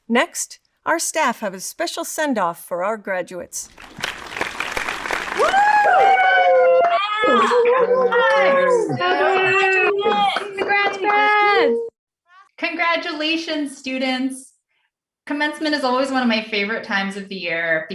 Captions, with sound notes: Next, our staff have a special send off for our graduates. (audience applauds) (staff cheering) Go Bears! Graduates! Congrats, class! Congratulations, students. Commencement is always one of my favorite times of the year